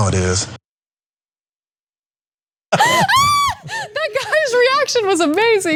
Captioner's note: laugh